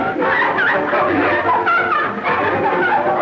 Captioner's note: laughing